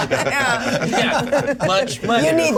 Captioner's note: laugh